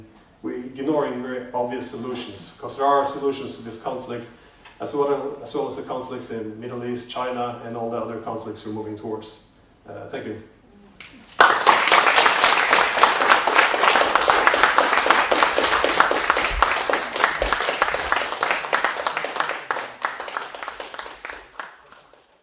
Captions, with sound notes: We're ignoring very obvious solutions. Because there are solutions to this conflict, - as well as to the conflicts in the Middle East, China, and all the other conflicts we moving towards. Thank you. [Applause]